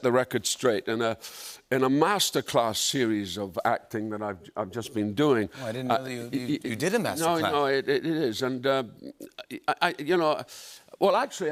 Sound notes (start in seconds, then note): none